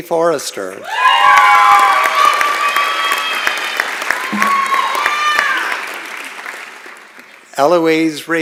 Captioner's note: applause